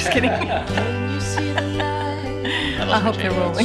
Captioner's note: laughing